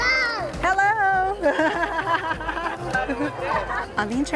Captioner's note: laughs